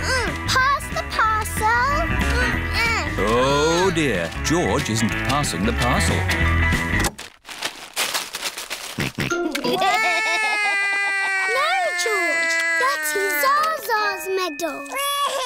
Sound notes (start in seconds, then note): 7.2 music stops; 9.0 george laughs; 9.6 cries